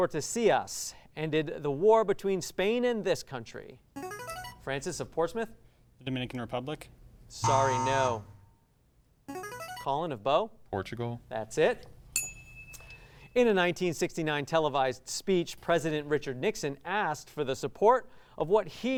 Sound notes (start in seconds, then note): 4.0 ring-in sound; 7.4 buzzer sound; 7.4 ring-in sound; 12.1 ding sound